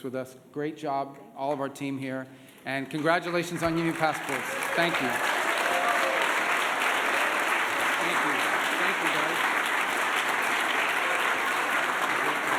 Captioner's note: applause